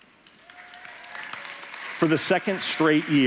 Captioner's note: applause